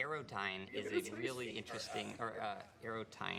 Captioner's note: laughing